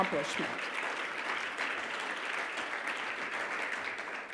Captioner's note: audience applauding